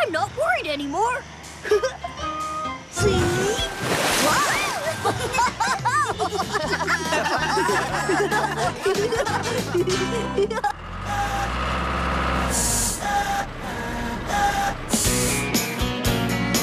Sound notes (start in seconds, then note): 1.6 chuckles; 3.0 splash!; 4.8 laughter; 10.4 hydraulic Whirring